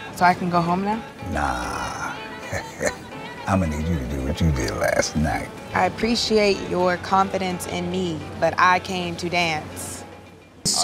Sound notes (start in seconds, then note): 1.3 laughs